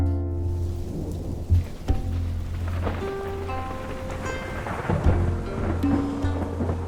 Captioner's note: slow music; thunder rumbles